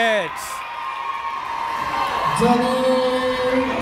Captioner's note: cheering